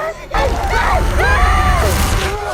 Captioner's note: screaming